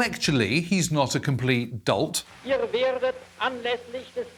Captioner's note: archive German speech